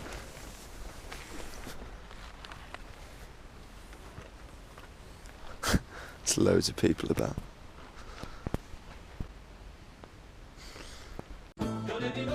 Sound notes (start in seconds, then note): none